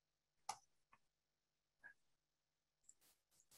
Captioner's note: mouse clicks